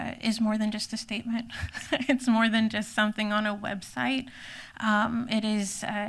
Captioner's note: laughs